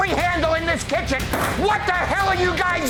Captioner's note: hand slams